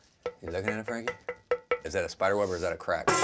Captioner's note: knocks on crock